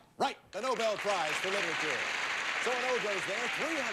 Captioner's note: audience applauding